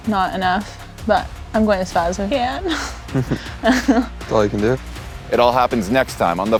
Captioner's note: giggling